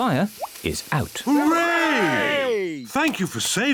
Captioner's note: cheering